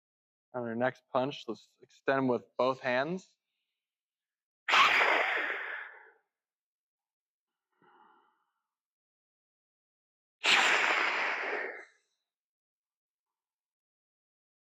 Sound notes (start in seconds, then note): 7.7 breath